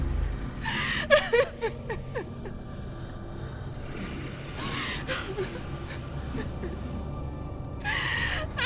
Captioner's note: crying